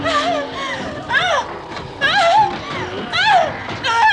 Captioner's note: whimpering